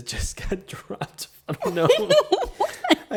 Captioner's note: laughs